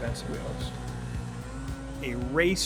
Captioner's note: powerboat revving